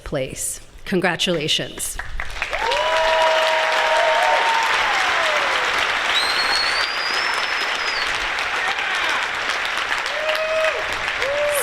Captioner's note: applause